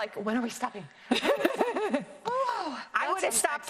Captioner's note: both laughing